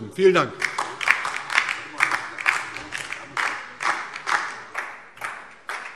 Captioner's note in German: Beifall DIE LINKE